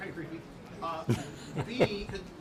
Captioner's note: laughs